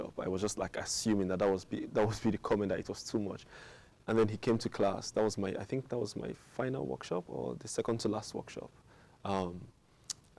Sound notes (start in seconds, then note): none